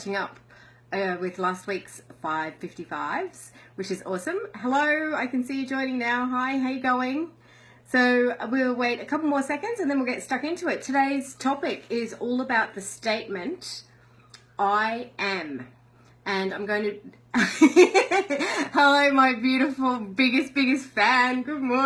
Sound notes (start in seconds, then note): 17.4 laughs